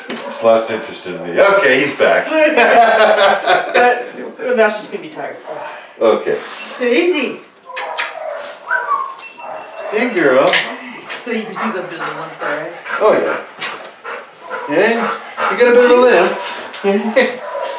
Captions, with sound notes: Yeah. She just lost interest in me. OK, he's back. hehe So now she is going to be tired. OK Daisy (kiss kiss) (whistle). Hey, girl. So you can see that there's a limp there. Oh Yeah. Eh? You got a bit of a limp? Eh? Are you going to be OK? Oh, you want to play, do ya? Yeah? Hey? That's a girl. Allo Daisy!